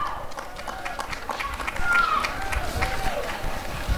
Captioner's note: applause and cheering